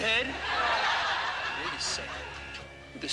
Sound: crowd laughs

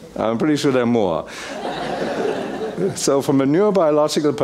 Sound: laugh

